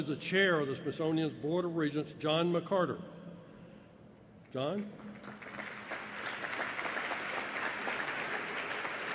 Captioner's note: applause